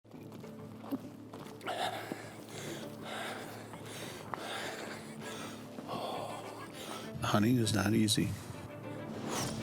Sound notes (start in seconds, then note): 1.7 breathing heavily